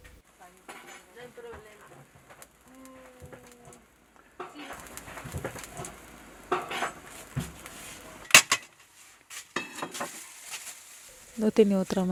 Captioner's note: sonido ambiente cocina